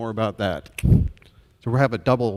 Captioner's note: clicks tongue